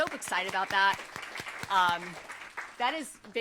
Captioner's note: applause